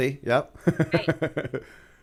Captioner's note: chuckle